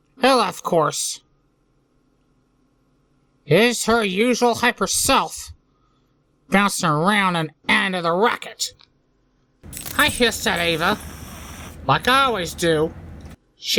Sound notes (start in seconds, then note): 9.6 hisses